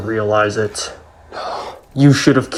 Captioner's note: whispering